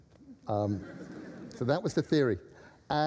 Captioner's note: laughter